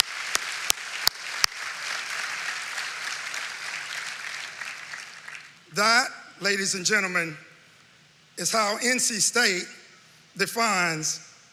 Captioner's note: applause